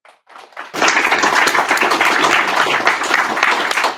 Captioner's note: applause